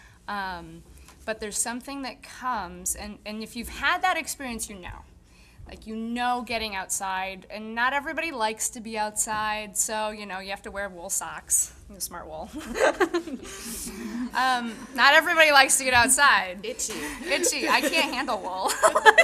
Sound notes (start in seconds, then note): 12.6 audience chuckling; 16.8 laughing